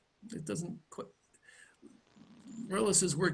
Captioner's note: stammers